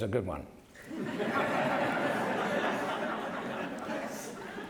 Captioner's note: laughter